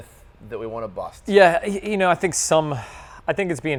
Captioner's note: sighs